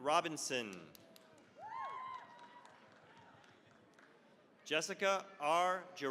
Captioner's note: cheering, applause